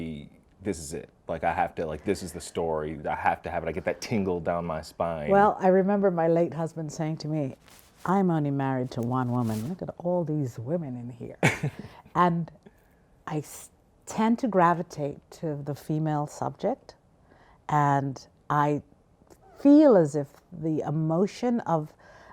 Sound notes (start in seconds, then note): 11.4 laughs